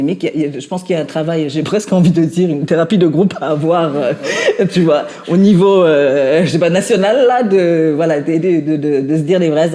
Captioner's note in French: rires